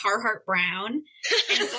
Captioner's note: laughter